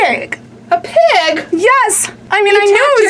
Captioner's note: pat